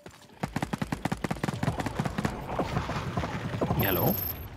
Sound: Loud and silenced Flechette shooting

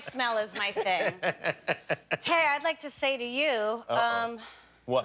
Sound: laughter

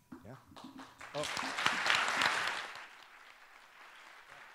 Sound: applause

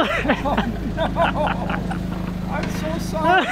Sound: both laughing

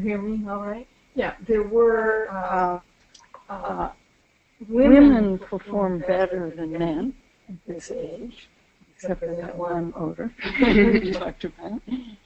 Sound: laughter

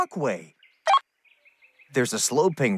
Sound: beep

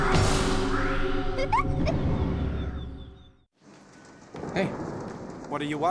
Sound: creepy giggling

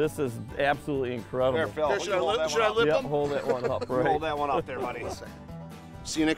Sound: laughing

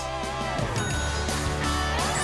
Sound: bell dings

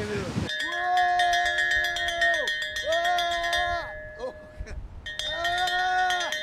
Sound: bell ringing; man shouting

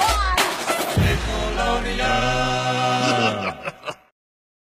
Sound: laughing

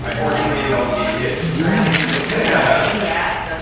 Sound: toy whirs

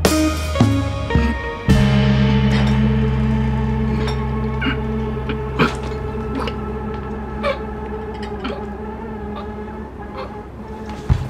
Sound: Lou choking

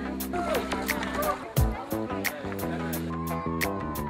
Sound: cheering

